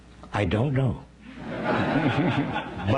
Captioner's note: laughing